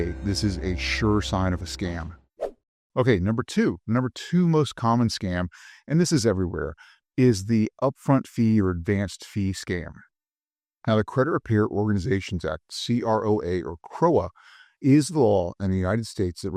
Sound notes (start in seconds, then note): 2.3 air whooshing